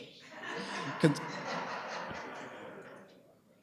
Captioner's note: audience laughs